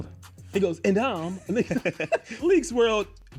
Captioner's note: laughs